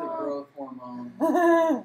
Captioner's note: laughs